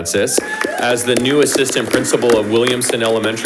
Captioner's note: audience applauding